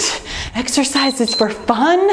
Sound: timer beeps

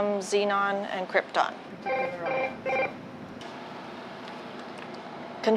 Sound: telephone rings

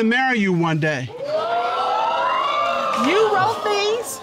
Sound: audience exclaiming

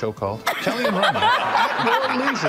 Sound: attendees laughing

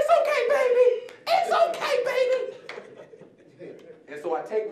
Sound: audience chuckling

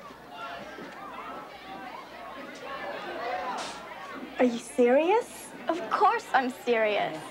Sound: chatter

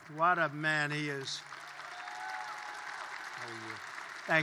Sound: applause

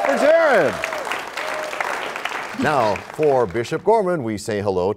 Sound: applause

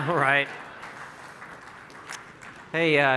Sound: laughing; applauding

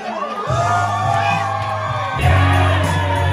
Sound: everyone cheers

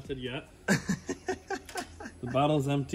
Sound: laughs

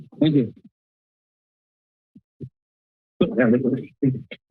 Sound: silence

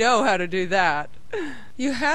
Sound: giggles

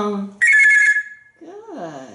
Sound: telephone sound

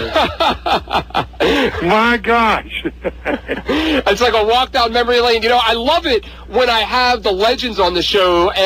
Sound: laughs

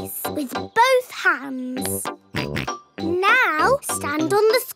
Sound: snorts

